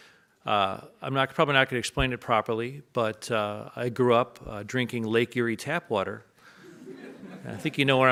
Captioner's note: audience laughs